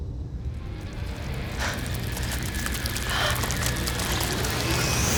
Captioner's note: wet tentacles splashing